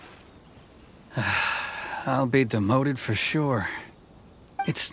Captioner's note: sigh